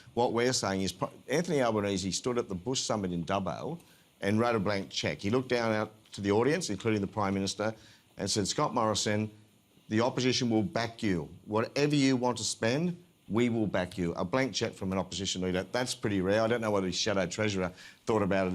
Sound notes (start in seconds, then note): none